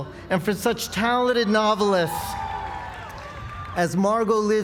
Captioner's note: applause